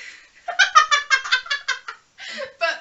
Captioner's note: laughs